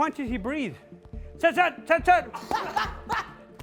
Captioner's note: shouting; breathing heavy